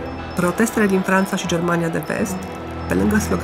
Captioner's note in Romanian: oameni protestând